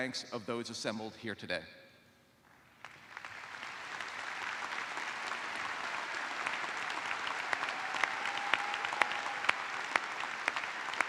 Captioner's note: applause